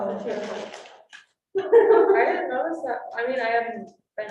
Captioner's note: all laughing